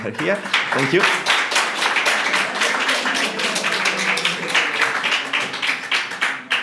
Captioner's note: applause